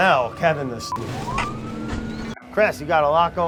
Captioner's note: sirens